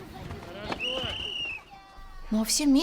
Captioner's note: referee Whistle Sound